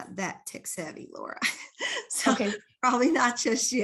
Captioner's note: laughs